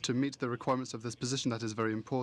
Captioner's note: speaking french